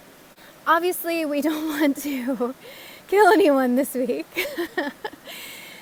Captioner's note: laugh!